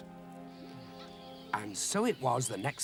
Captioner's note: birds chirping